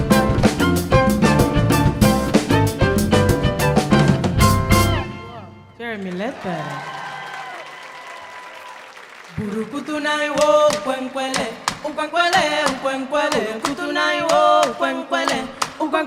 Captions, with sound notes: - Jeremy Ledbetter. (audience applauding) (lively Cuban music)